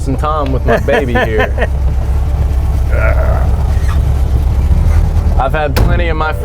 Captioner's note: laughs; groans